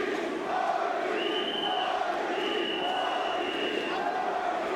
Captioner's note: crowd chanting; whistle blowing